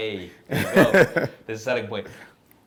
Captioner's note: laughs